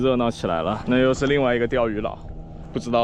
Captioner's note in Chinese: 引擎声